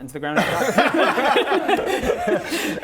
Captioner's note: mournful laughter